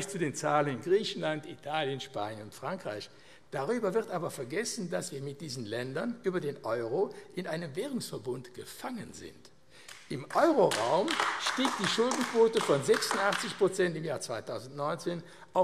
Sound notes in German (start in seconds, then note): 9.8 Beifall AfD